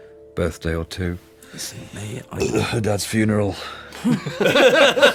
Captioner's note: belches